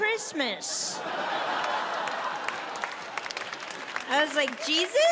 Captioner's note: audience laughs